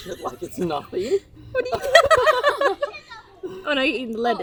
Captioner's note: women laughing